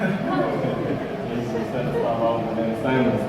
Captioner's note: crowd laughter